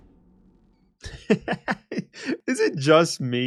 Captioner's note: laughs